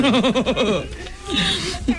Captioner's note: laughter